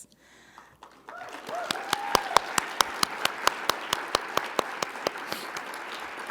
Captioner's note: audience applauding; audience cheering